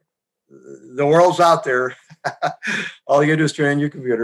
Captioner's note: laughs